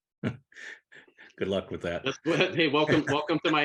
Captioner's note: laughs